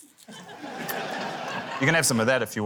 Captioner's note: laughter